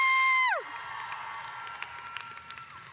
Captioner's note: cheers